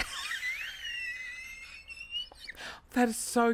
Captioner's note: laughter